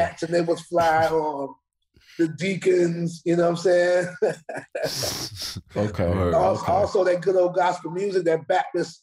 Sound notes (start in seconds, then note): 4.0 laughs